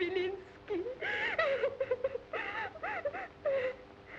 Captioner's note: crying